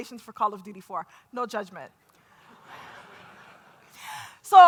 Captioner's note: laughter